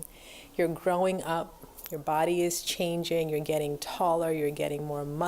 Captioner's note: none